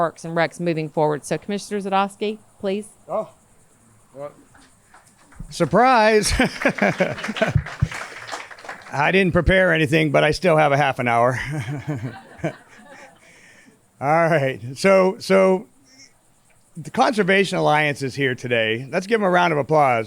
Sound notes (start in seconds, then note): 4.9 laughs; 7.3 audience applauds; 11.2 everyone laughs